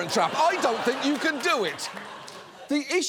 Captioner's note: studio audience laughs